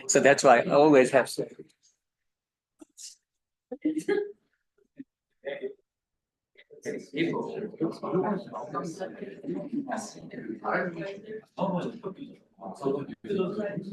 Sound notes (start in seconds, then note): 2.6 people chattering